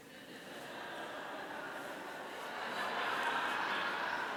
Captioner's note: audience laughing